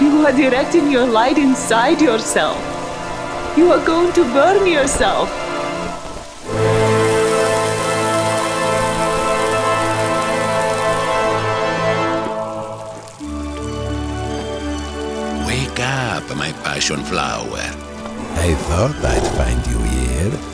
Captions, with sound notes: You are directing your light inside yourself. You are going to burn yourself. (ominous orchestral music) (flesh sizzles) (bright orchestral music) - Wake up, my passion flower. I thought I'd find you here.